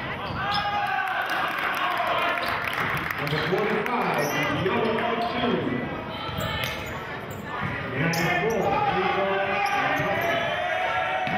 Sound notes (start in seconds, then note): 1.9 cheering